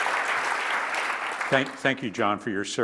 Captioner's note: applause